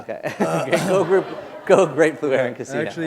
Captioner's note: chuckle